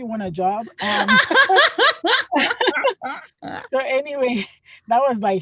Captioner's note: laughs